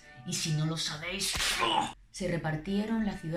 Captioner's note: whip